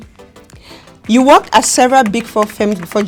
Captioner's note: keys typing